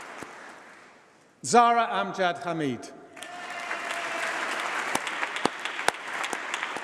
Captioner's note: applause